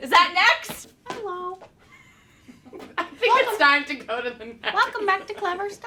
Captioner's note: laughter